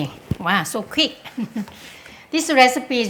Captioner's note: laughs